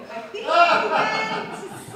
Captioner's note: audience laugh